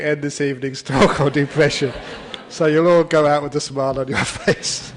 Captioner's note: laughter